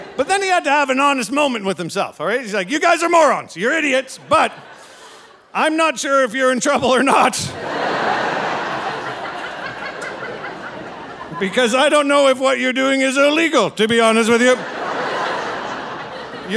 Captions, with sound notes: but then he had to have an honest moment with himself, all right? He's like, "You guys are morons. You're idiots, but I'm not sure if you're in (laughing) trouble or not (audience laughing) because I don't know if what you're doing is illegal, to be honest with you. (audience laughing)